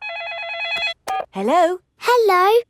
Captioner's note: phone rings